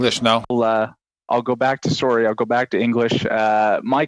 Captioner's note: speaking French